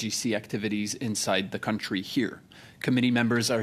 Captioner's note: speaking French